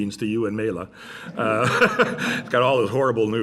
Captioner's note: laughter